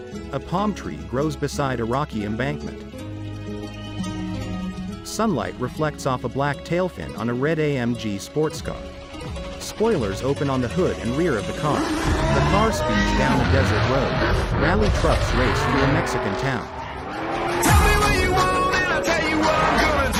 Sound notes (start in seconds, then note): 11.5 car engine roars